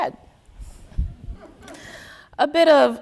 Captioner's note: audience laughing